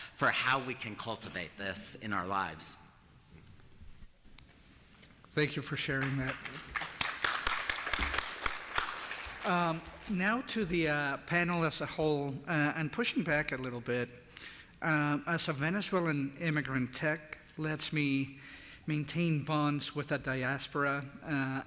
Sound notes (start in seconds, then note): 5.8 applause